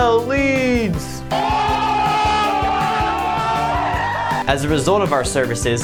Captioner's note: crowd yelling